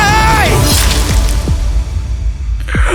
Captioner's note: sound of impalement